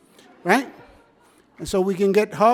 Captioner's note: audience laughs